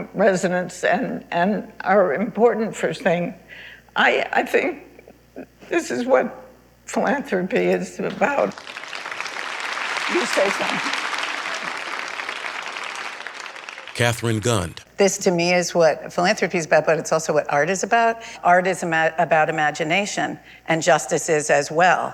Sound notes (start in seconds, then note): 8.5 applause